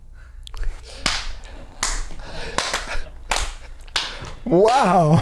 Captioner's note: clapping